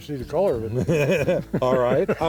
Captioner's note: laughs